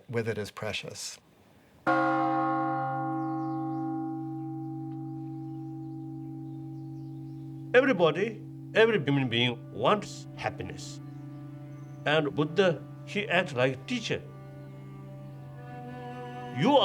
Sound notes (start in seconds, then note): 1.4 bell gongs